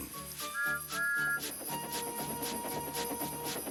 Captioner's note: whistles